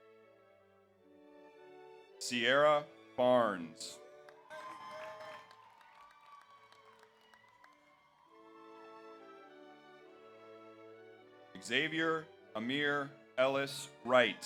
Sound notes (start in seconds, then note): 4.2 audience applauds; 4.3 audience cheers